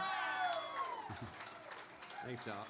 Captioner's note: applause